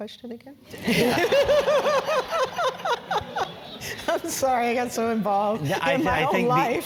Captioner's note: laugh